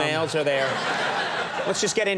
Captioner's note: audience laughing